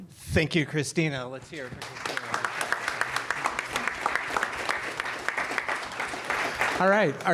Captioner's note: applause